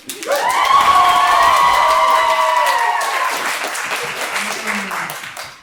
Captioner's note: clapping and cheers